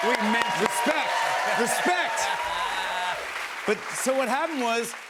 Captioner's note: cheers and applause